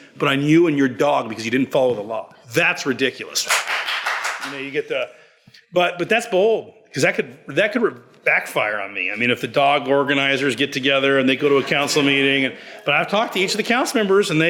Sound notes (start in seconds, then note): 3.4 all applaud; 11.2 audience laughs